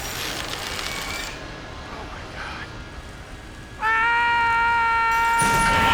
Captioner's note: screaming